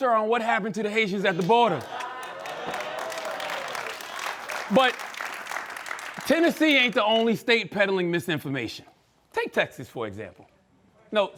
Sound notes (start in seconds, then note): 1.8 cheering and applause